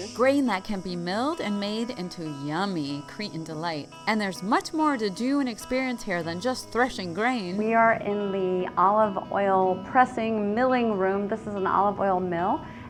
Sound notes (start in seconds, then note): none